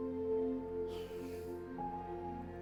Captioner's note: sighs